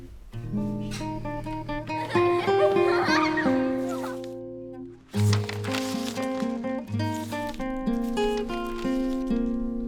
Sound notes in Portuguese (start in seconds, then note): 1.8 Risadas alegres; 4.9 Ruído de papel